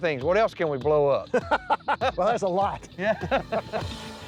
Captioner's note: laughter